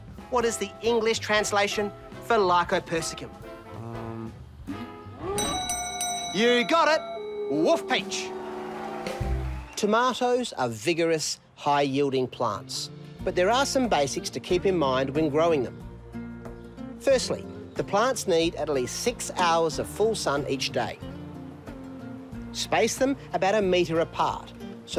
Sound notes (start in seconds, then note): 5.4 bell dings; 5.4 wolf howls